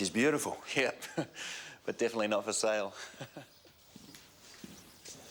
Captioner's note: chuckles